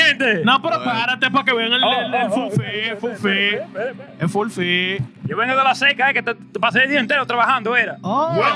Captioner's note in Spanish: Hablando español